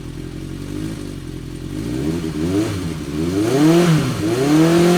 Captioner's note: engine revving